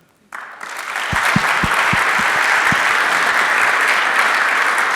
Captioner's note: audience applauding